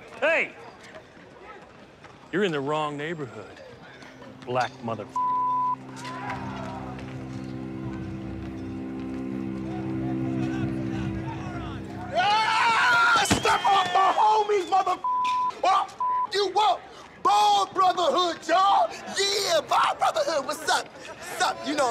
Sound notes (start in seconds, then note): 5.0 beep; 7.6 ominous music; 12.2 screaming; 15.0 beep